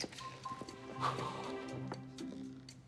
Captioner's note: sighs